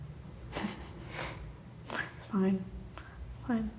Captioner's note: both laughing